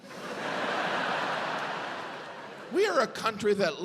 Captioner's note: audience laughs